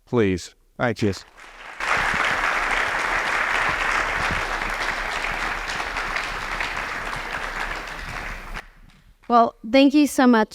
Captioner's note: applause